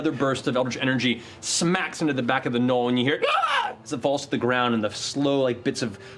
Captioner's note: screeches